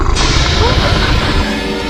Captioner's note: Huram growls